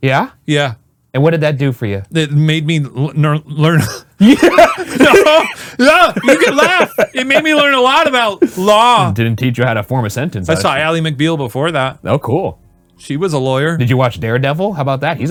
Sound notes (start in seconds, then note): 3.8 both laughing